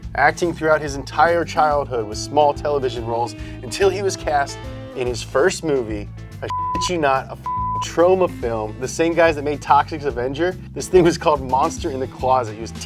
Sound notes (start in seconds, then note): 6.4 beep